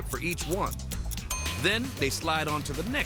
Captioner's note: bell dings